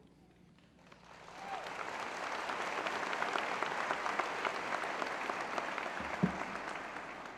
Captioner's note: applause